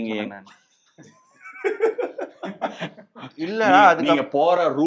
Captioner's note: laughs in Baasha's Manikam mode